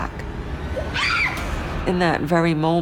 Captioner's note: Cindy screaming